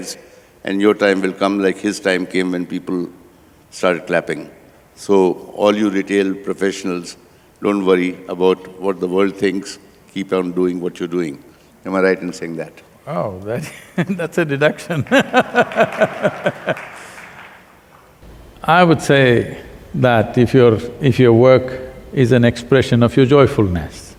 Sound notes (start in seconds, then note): 13.0 laughs; 15.4 applause